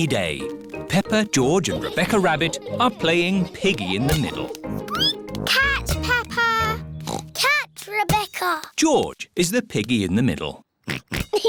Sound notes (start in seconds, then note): 4.5 squeaks; 7.0 oinks